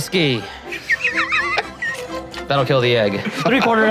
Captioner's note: laughing